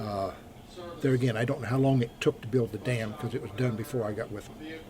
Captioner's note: none